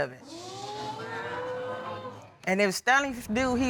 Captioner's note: audience gasps